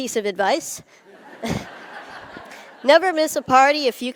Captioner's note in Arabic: ضحك